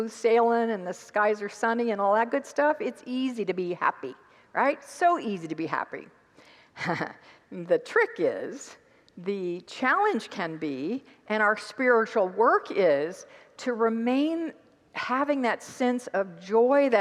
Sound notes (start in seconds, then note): 6.9 laughs